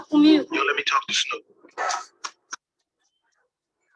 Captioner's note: speaks in foreign language; male Voice